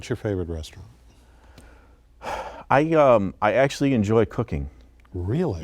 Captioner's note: sigh